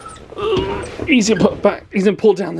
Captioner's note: grunting